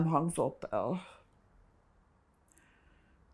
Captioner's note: pauses 6 seconds